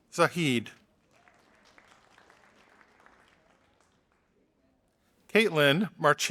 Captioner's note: audience applauding